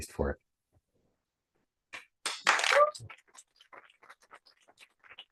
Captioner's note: applause